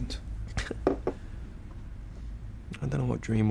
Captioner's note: Billy chuckles